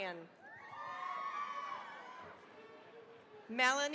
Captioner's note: cheering, applause